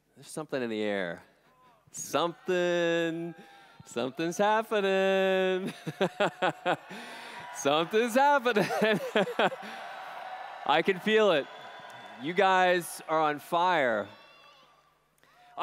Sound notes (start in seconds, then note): 5.7 laughs; 8.5 laughs; 8.6 cheers